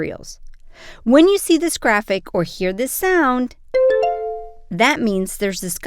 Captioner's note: bell ding